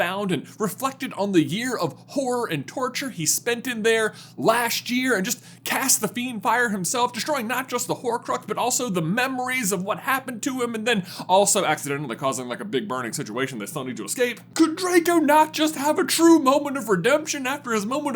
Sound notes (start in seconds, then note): none